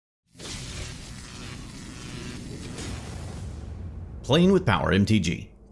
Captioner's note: electricity crackling